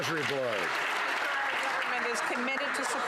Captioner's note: some Applause